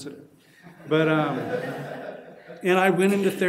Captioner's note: laughing